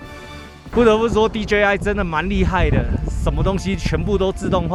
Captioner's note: drones